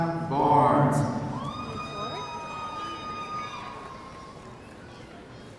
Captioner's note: audience cheering